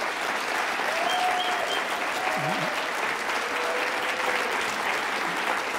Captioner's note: audience applauds